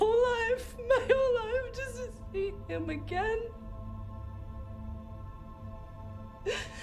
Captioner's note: sobs